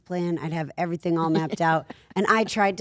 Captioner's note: laughing